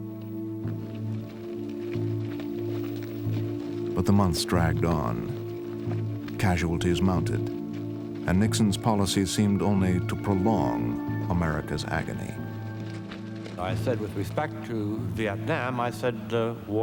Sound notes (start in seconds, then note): none